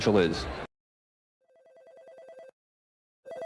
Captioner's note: phone ringing